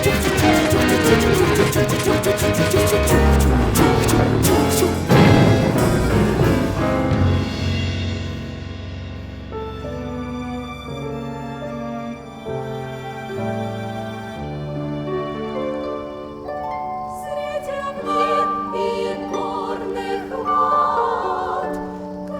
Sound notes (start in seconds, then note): 4.8 boom!; 9.7 soft music; 17.0 female choir singing